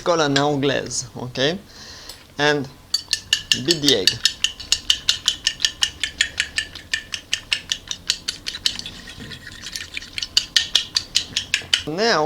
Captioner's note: mixing sounds